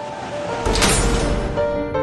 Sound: metal door slams shut

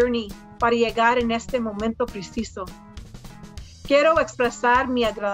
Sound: speaks in foreign language

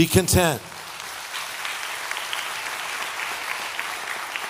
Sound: audience applauding

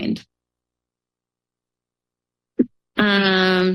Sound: pause

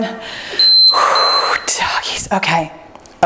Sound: timer beeps

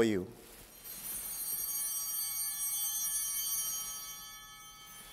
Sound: bell ringing

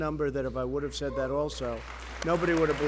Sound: applause

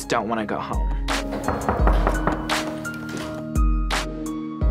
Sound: knock on door

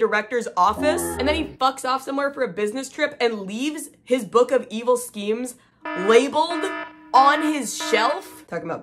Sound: alarm blaring

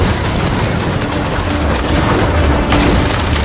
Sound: wind howling

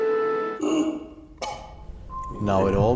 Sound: cough; cough!

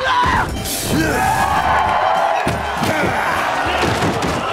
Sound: cheering

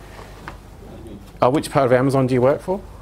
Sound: low Man's Voice

